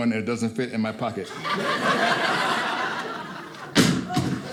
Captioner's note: audience laughing